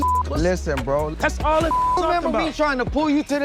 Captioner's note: beep